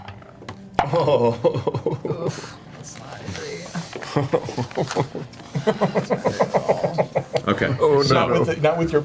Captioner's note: nervous laughter